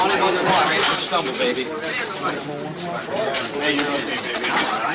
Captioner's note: crowd chattering